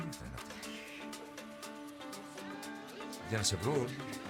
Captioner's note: laughs